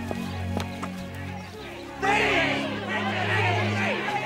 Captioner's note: shouting